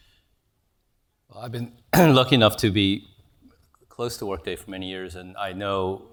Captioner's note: cough